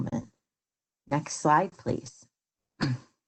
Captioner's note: clears throat